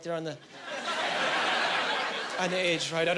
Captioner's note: laughing